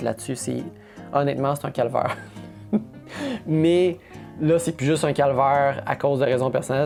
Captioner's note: laughs